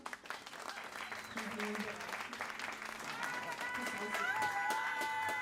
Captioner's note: crowd applauding and cheering